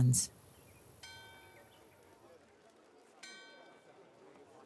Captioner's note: bell ringing, people chattering